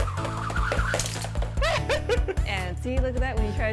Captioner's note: laughs loudly